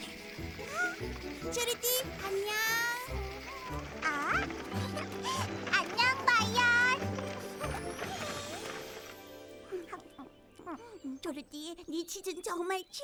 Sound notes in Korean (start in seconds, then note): 8.8 먹는 소리